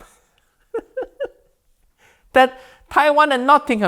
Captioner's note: Uncle Roger laughs